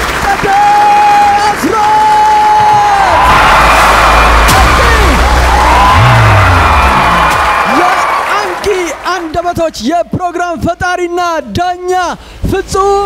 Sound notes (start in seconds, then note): 0.0 applause and scream; 2.9 applause and scream